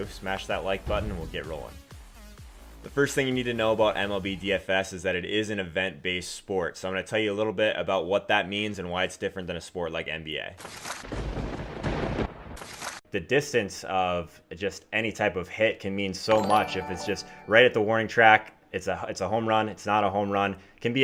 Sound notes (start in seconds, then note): 11.0 lightning crackle and crashing thunder